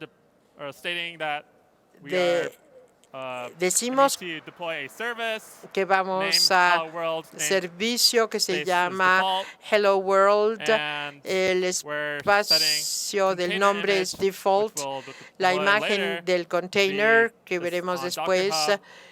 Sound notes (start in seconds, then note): 6.0 aplauso